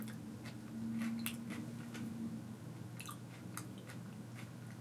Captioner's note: food crunching